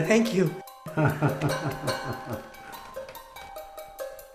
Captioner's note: doctor laughs